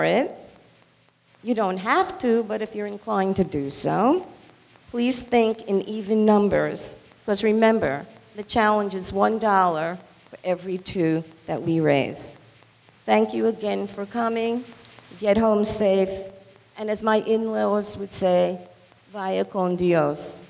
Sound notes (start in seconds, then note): 17.8 foreign language